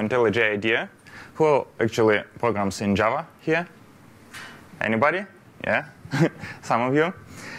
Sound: laughter

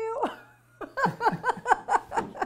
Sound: laughs

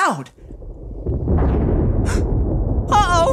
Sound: thunder rumbling; gasps

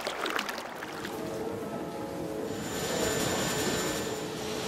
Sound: machinery sound

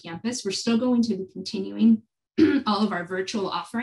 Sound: clears throat

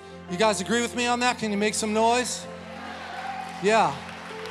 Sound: congregation applauding

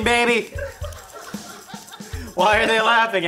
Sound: laughing

